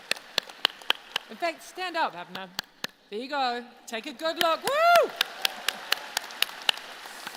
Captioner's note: applause